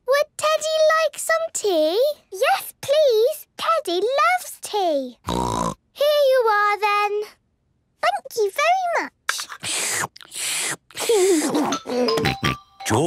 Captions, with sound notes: - Would Teddy like some tea? - Yes, please! Teddy loves tea. (snort) - Here you are then! - Thank you very much! (slurping) (giggles)